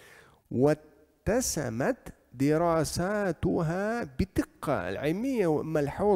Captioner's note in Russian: Говорит на арабском